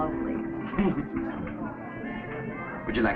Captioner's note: Pepe chuckling